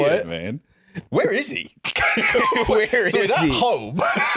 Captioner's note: laughs